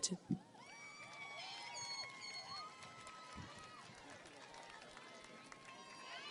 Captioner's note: audience cheers and applauds